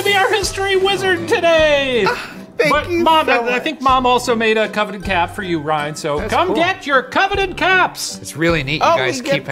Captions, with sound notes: be our History Wizard today! - (gasps) Thank you so much! - But Mom, I think Mom also made a coveted cap for you, Ryan, so come get your coveted caps! - That's cool. It's really neat. - We get caps?